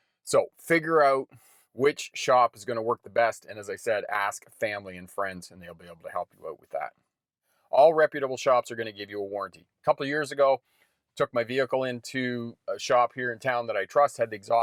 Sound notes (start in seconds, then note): none